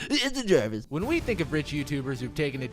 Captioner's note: voiceover